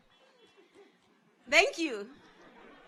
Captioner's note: audience laughs; car horns honking; audience laughs